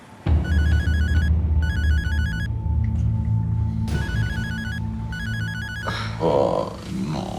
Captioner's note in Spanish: timbre de teléfono